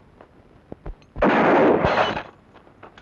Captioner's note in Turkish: Tüfek sesi